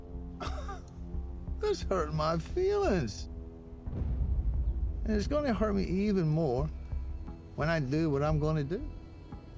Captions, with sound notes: [LAUGHS] [SCOTTISH ACCENT] THAT'S HURTIN' MY FEELINGS. AND IT'S GONNA HURT ME EVEN MORE WHEN I DO WHAT I'M GONNA DO.